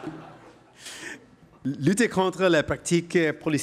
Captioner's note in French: rires